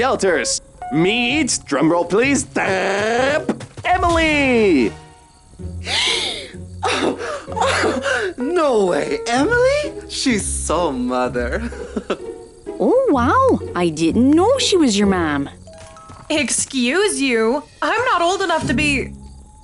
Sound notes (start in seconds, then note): 3.5 drumroll; 5.8 gasps